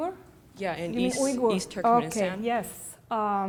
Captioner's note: voiceover